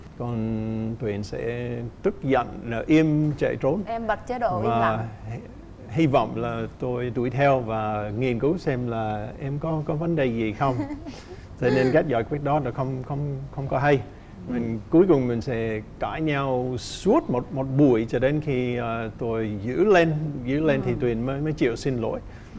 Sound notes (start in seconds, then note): 10.6 the wife giggles